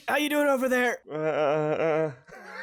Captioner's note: Firi makes noises of uncertainty; giggles